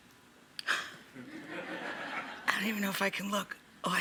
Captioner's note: audience laughing